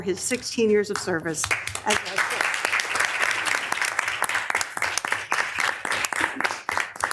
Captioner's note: attendees clapping